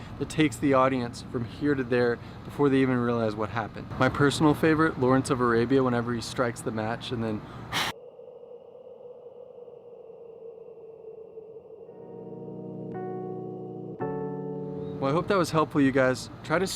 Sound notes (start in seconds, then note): 7.6 air blowing; 12.0 gentle music